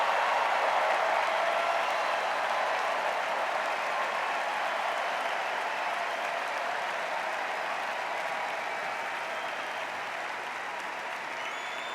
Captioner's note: extended cheers and applause